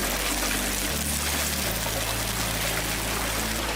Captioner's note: frying sounds